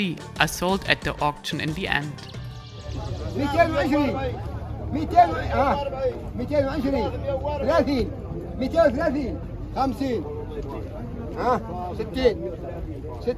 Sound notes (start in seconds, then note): 3.5 people shouting in foreign language